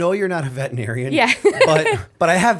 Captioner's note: laughter